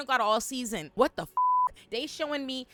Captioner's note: beep